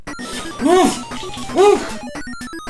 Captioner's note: cries of anger and excitement